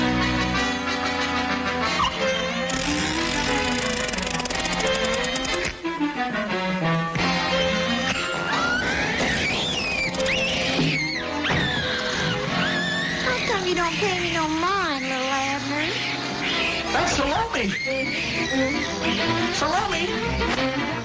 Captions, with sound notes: (dramatic music) (tool clicking) (Salomi squealing) - How come you don't pay me no mind, Little Abner? - That's Salomi! Salomi!